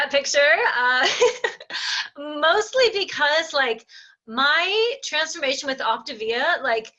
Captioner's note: laughing